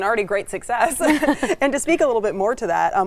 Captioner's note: laughing